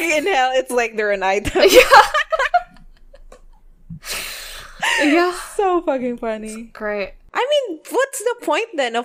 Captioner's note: both laughing